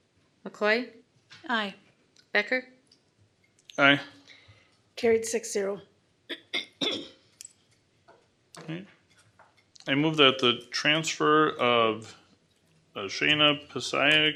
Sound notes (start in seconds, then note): 6.3 clears throat